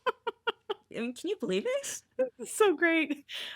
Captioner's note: laughing